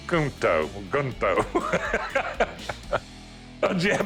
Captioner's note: chuckling